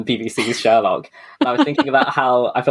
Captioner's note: laughs